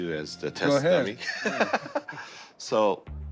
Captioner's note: laughs